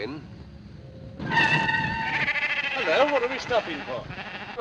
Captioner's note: tires screech; sheep bleating